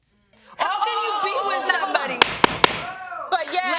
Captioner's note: gavel pounding